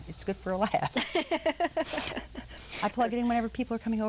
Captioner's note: laughing